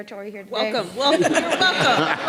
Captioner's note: people laughing